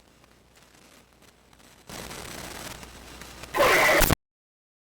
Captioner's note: audio interference with glitchy scream